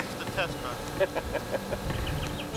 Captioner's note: laughter